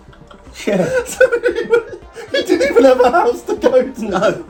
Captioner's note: laughing